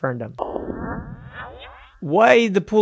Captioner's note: electronic echo